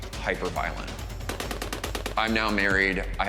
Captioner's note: gunfire bursts